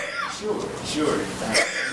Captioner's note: woman coughing